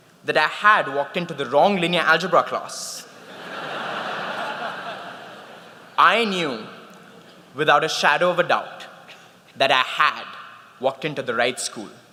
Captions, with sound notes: that I had walked into the wrong linear algebra class, (laughter) I knew without a shadow of a doubt that I had walked into the right school.